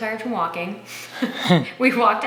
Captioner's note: laughing